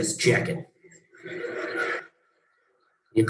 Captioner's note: laughs